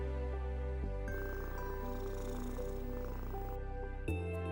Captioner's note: cat purring